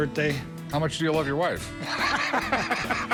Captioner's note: laughs